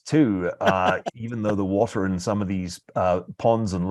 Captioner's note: laugh